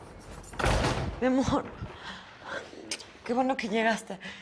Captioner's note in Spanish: Sonido al cerrar la puerta